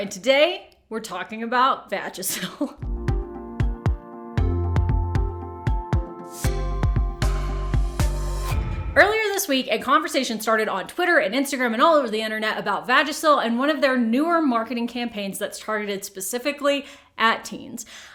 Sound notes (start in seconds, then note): 2.5 laughing; 2.8 upbeat pop music